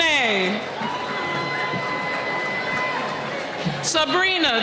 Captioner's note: cheering